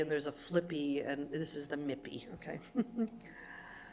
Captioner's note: giggles